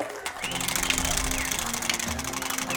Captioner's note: applause